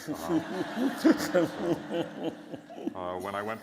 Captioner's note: laughter